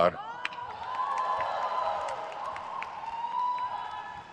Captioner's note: crowd cheers